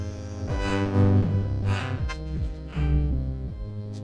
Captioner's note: panting